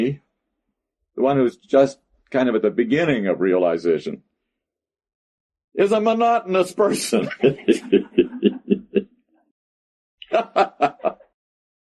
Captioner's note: laughter